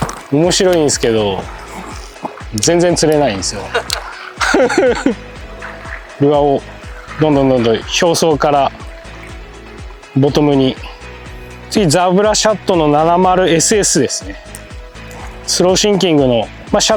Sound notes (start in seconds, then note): 3.1 laughs